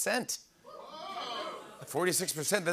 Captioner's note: audience "Oohs"